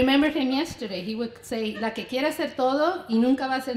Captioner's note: foreign language